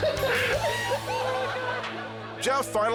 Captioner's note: roommates laughing